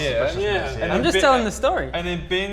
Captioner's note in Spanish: Voz inocente